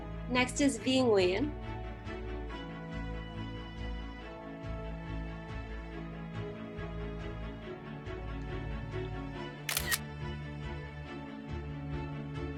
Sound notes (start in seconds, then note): 9.6 camera shutter sound